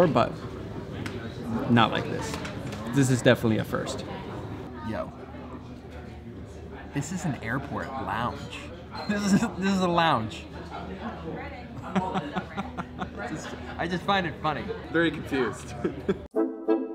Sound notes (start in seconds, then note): 11.9 laughing